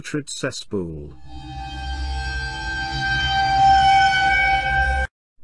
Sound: sinister Sound

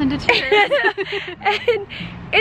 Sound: laughter

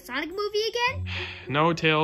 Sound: sigh

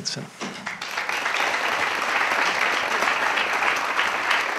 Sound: audience claps

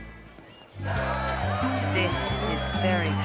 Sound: crowd cheering

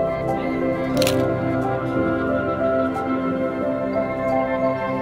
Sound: dramatic music; shutter clicking

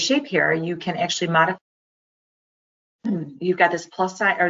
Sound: sound cut out

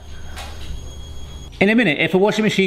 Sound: washing machine whirring

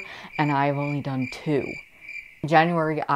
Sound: crickets chirping

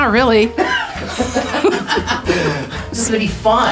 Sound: laughs

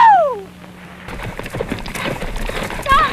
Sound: horse hooves clopping

